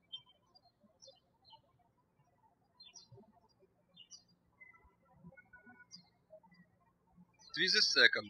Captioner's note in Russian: птички щебечут